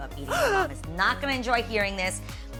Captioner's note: gasping